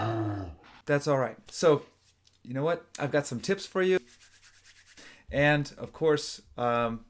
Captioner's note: growls; rubs hands